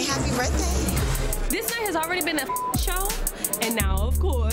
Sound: beep

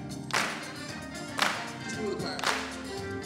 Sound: upbeat music; audience clapping

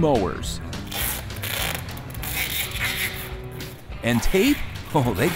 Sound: tape ripping

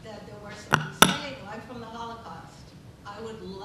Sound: microphone banging

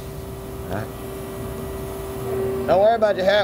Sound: machine whirring

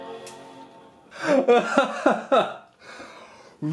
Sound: laughing

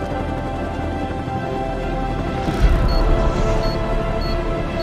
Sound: beeping

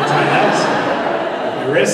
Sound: laughter

